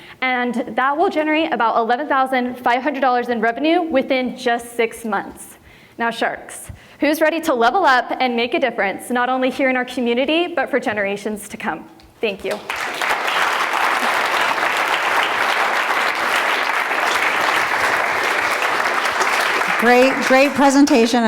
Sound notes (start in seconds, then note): 14.0 applause